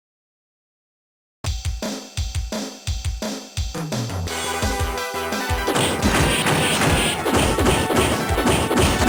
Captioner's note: laughs